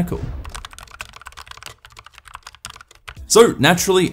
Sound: keyboard clacking

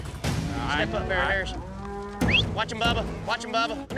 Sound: whistles

